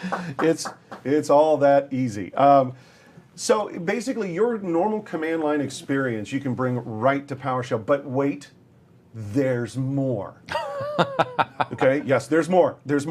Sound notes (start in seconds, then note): 0.0 clapping; 10.5 laughter